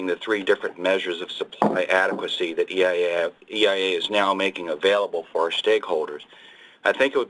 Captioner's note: loud thud